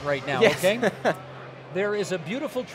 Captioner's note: laughing